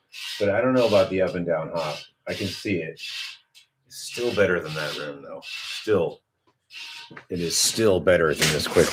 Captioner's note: snorts; snorts